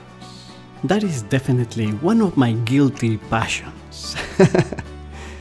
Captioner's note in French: rires